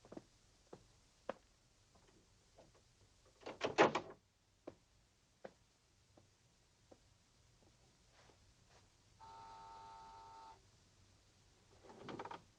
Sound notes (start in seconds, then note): 9.2 buzzing